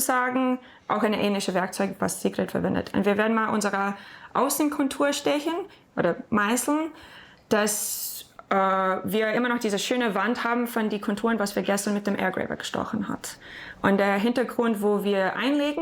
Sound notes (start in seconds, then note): none